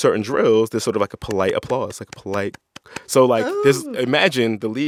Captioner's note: clapping